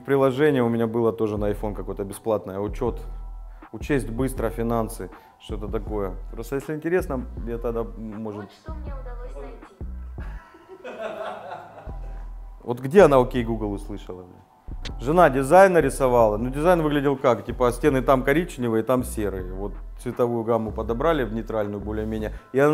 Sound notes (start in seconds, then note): 10.2 giggling